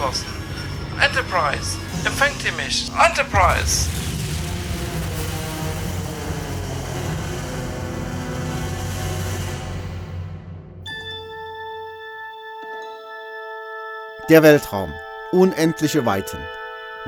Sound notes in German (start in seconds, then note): 3.2 Explosion; 4.0 Dramatische Musik